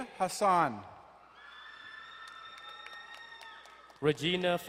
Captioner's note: crowd cheering and applauding